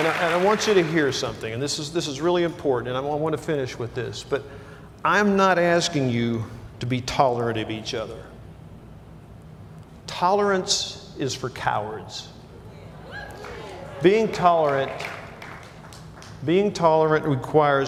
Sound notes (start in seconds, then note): 0.0 applause; 13.0 cheers